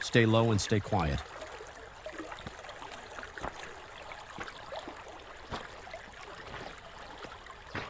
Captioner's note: stream burbling; pebbles crunching